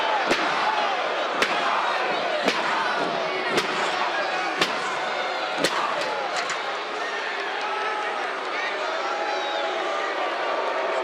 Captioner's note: crowd yells; crowd boos